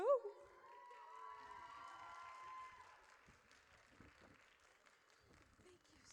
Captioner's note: audience cheers